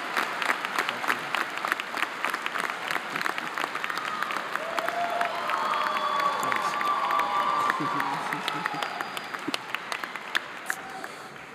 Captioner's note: applause